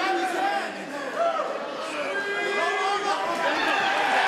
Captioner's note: crowd cheering